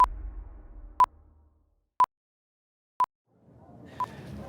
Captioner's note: clock beeping